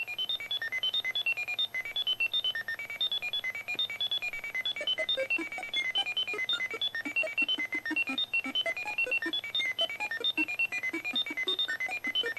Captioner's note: beeps and stuff